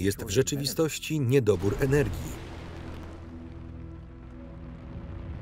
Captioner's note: explosion booms